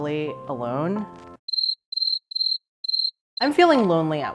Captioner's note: crickets chirping